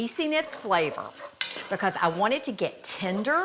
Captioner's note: utensil scraping